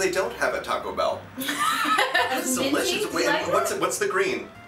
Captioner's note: laughter